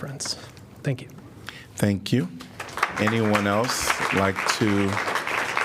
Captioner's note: applause